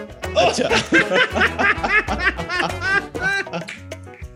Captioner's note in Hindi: सब हँसते हुए